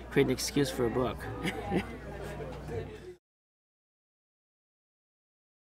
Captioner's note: Lawrence laughing